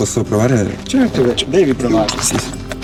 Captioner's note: speaking Italian